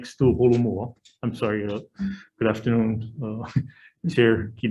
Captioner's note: chuckle